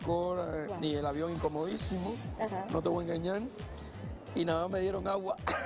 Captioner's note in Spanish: risas